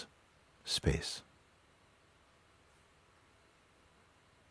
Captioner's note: Stille